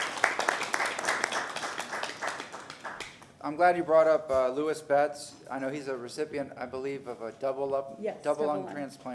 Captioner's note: applause